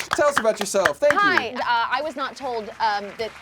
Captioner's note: loud cheering